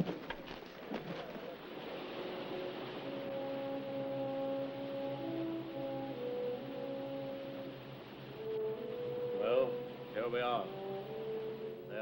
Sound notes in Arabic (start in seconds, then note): 1.3 الماء المتدفق; 3.2 صوت الماء المتدفق; 3.2 موسيقى أوركسترالية حزينة